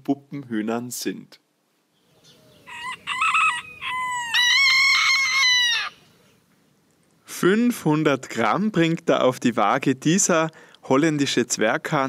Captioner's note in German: Zwerghähne krähen